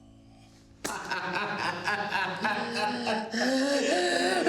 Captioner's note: Ben laughing; Mia crying